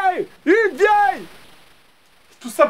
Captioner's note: scream